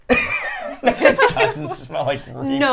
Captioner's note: group laughs